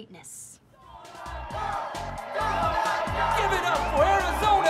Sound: audience cheering

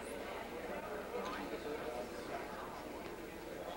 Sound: chatter

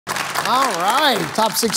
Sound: applause

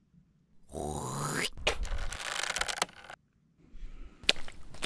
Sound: spitting

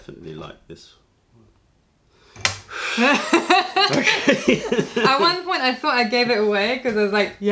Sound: laughter

